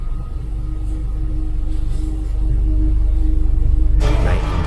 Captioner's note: footsteps